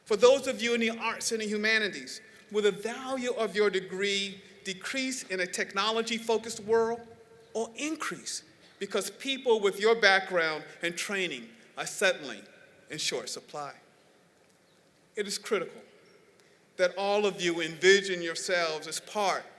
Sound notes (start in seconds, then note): none